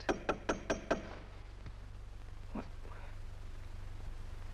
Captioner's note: knock at door